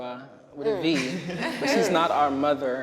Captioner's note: everyone laughing